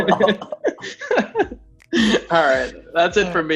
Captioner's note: laughs